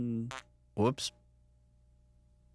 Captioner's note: farts